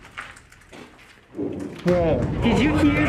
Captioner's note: distant thud